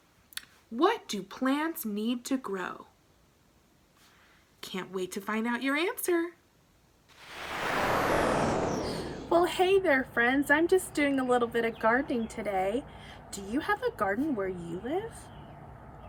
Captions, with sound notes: and that question is, what do plants need to grow? Can't wait to find out your answer. (whooshing) - Well hey there, friends. I'm just doing a little bit of gardening today. Do you have a garden where you live?